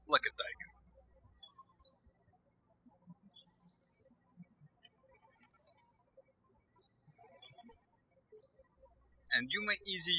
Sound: birds chirping

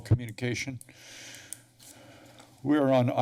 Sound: breaths steadily

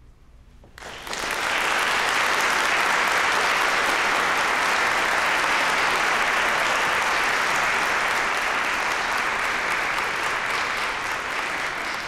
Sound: applause

